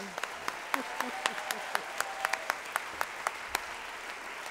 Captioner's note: applause